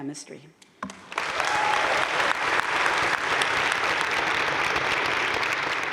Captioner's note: crowd cheering and applauding